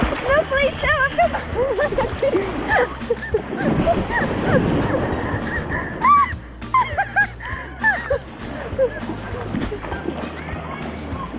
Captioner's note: laughing/Shrieking with cold